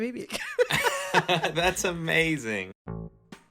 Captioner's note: laughter